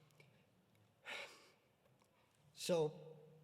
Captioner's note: sighs